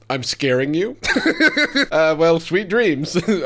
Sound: chuckling

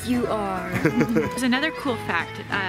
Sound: laughing

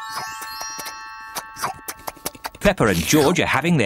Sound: munching of food

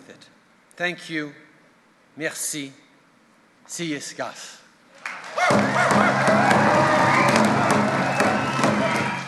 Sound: wild cheers and drumbeats

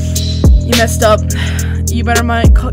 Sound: sigh

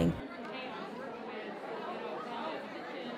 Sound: crowd murmuring

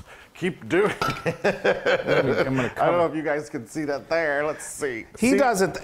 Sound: laugh

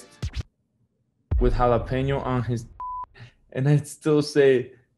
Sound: record scratch; beep

